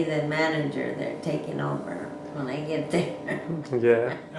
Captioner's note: laughing